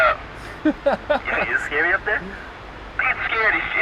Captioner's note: laughing